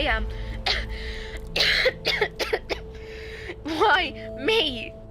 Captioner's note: coughing